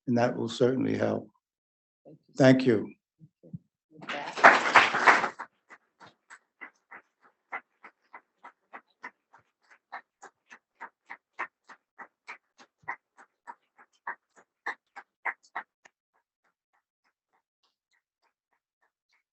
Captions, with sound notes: And that will certainly help. Thank you. (audience applauding)